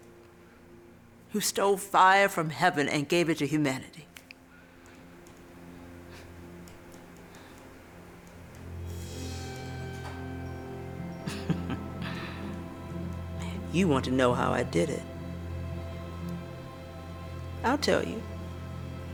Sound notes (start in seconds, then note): 5.4 low tone plays; 9.9 instrumental music plays; 13.9 chuckles; 16.3 instrumental music plays